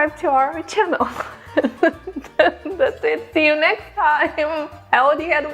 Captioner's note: laughing